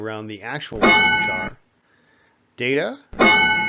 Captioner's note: ding; ding